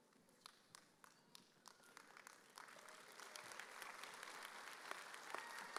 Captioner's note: audience applauding